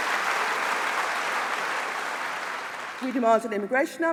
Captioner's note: applause